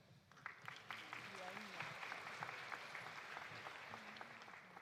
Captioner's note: audience applauding